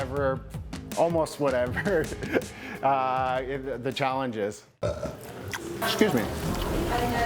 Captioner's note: burps